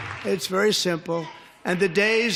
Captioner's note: applause